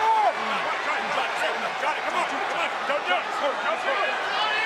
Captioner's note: crowd cheering